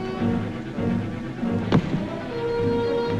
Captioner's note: door bangs